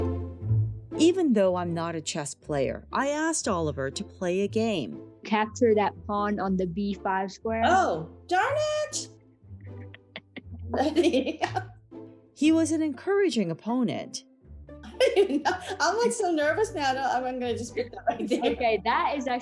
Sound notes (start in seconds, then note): 9.6 laughing; 15.1 laughing